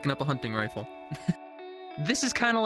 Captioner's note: man laughs